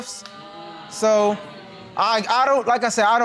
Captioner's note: audience exclaims